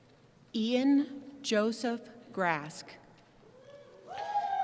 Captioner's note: voiceover; cheering